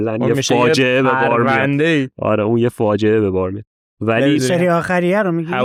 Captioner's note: laughs